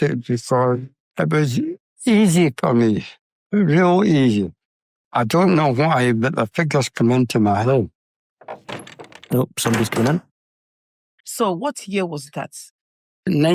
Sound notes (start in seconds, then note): 8.4 door sounds